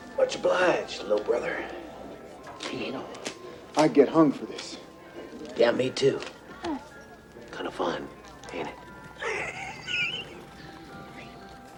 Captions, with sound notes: - Much obliged, little brother. - You know, I'd get hung for this. - Yeah, me too. Kinda fun, ain't it? (laughs) Shh!